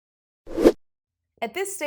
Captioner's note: graphic whooshes